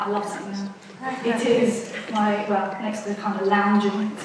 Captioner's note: audience laughs